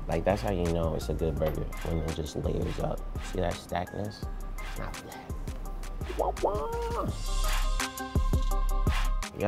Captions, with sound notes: Like that's how you know it's a good burger, when it just layers up, you see that stack on this. Hot damn (exclaims). (mellow hiphop music)